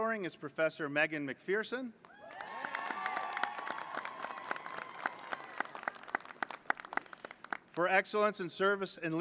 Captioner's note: applause